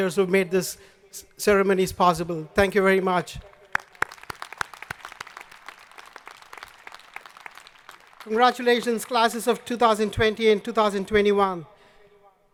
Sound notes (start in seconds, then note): 3.5 audience applauding